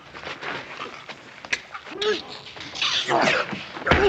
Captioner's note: sounds of fighting